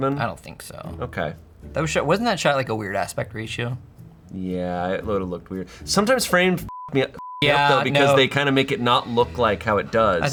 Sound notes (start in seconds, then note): 6.7 beep